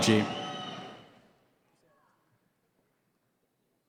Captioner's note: cheering